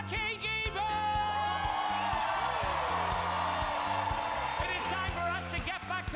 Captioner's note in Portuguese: audience cheering; cast cheering